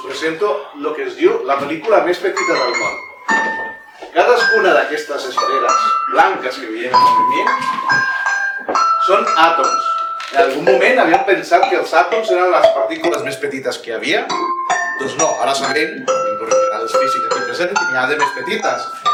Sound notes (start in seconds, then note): none